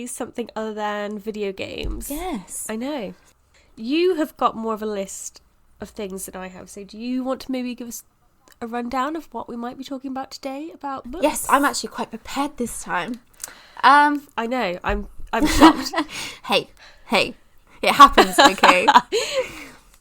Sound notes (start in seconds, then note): 15.4 laughs